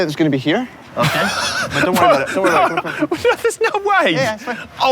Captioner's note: laughs